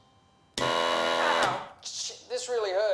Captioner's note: machine blaring